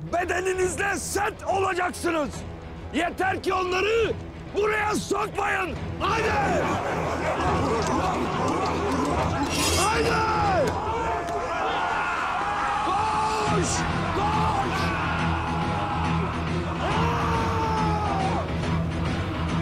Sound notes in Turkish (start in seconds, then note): 6.6 Bağırma sesleri; 9.5 Kılıç sesi; 10.8 Bağırma sesleri; 15.0 Bağırma sesleri